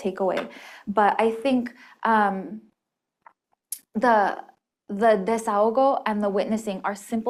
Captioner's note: spanish